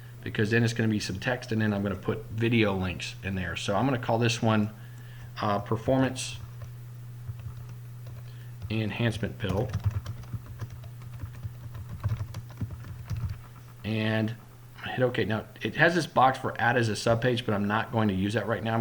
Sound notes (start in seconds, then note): 9.4 typing